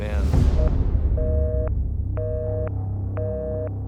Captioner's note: busy tone beeping